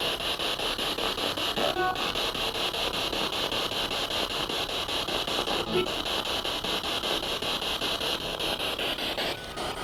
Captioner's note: sound of the Spirit Box in the background